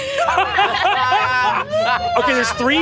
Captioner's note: players laughing